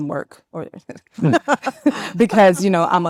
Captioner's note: panelists laughing